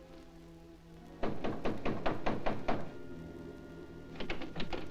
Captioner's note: pounding on door